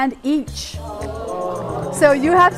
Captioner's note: people groaning